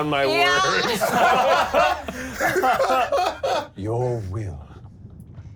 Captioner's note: all laughing